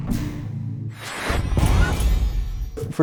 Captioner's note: whoosh